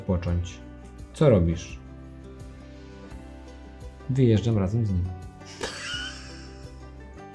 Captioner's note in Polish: śmiech